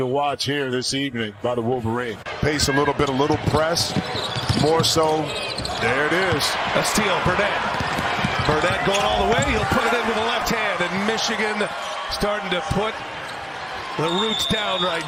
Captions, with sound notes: MORE SO, THERE IT IS! [ CHEERS AND APPLAUSE ] [ CROWD NOISE ] >> A STEAL. BURNETT GOING ALL THE WAY. PUTING IT IN WITH THE LEFT HAND, MICHIGAN STARTING TO PUT, THE ROOTS DOWN RIGHT NOW. TIME-OUT . ST. LOUIS!